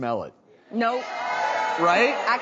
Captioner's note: audience jeering